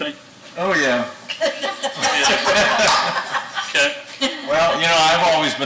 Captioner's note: laugh